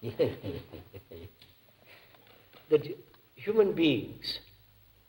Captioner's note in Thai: หัวเราะ